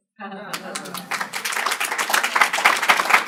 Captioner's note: applause